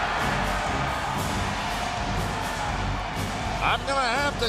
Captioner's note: crowd cheering